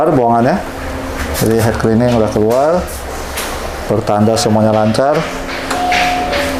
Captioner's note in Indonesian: suara mesin printer